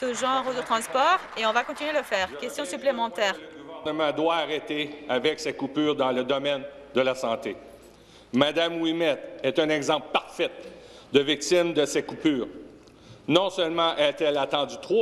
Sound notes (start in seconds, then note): 2.2 some Applause; 5.5 speaking French